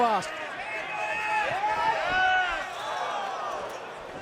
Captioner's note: fans chattering